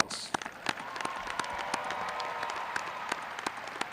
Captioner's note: graduates cheering